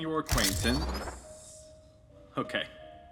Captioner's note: laser rifle arming